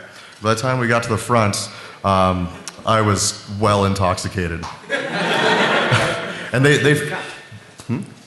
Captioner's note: laughter